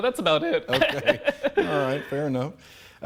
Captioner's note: both chuckling